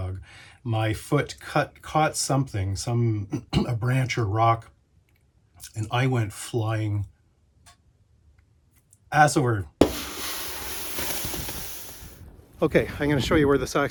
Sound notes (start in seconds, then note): 9.8 tea kettle